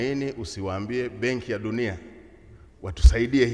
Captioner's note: speaking foreign language